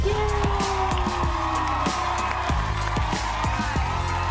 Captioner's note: audience applauding